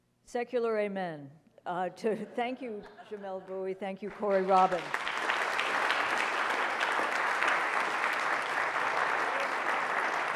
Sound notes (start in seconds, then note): 4.2 audience applauding